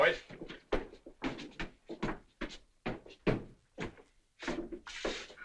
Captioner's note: footsteps